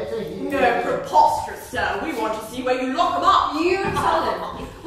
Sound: laughs

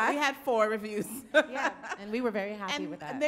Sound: laughs

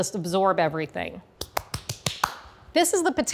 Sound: hands clapping

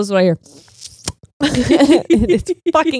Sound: slurps

